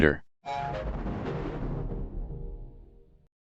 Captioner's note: Anti 3D Giga Windows XP Shutdown Sound